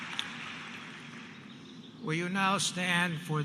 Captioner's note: applause